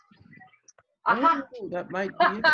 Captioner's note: giggles